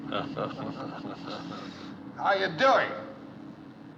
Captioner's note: chuckling